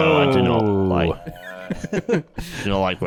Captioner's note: laughs